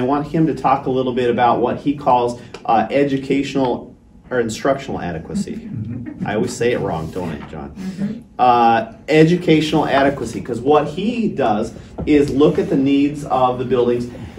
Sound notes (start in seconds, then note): 5.3 audience chuckles